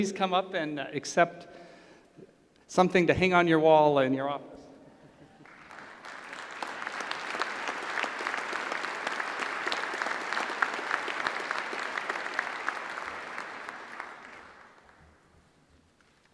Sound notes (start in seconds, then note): 5.9 applause